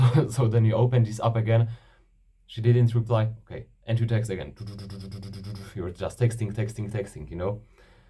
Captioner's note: texting